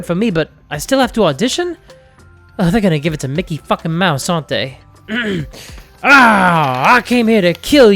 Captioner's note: clears throat